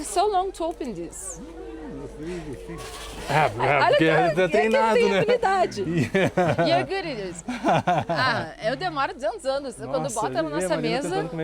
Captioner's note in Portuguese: risadas